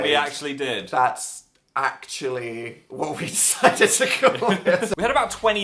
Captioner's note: laughs